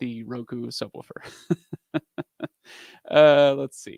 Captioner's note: laughs